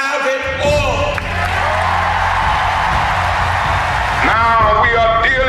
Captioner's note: huge applause